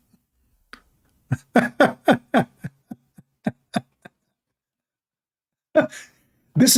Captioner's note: Ketawa